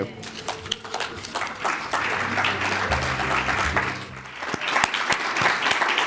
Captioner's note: audience applauding